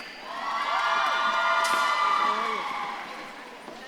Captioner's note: audience claps and cheers